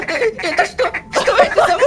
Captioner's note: screamer